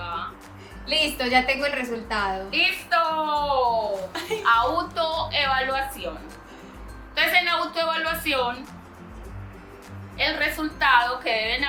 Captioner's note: laughs